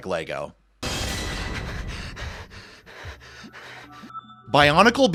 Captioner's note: gasping for breath